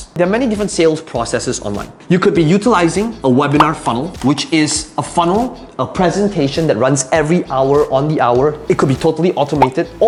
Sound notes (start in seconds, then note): 3.6 bubble popping; 3.6 marker tapping; 9.6 bubble popping